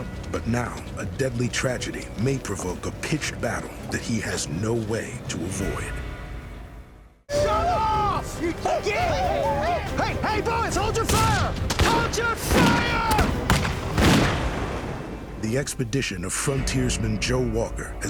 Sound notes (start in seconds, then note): 9.0 whooping; 11.0 firing gunshots